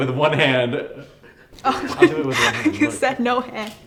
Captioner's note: cheerful giggling